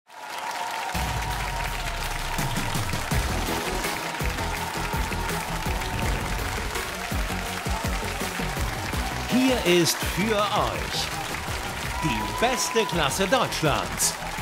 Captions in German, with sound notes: *** Wir begrüßen euch zur Live-Untertitelung. *Titel-Musik* *Jubel und Applaus* Hier ist für euch "Die beste Klasse Deutschlands".